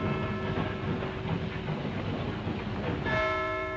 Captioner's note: sound of a steam engine; clock strikes